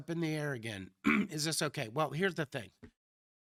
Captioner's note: clears throat